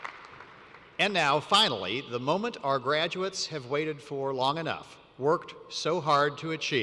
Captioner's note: applause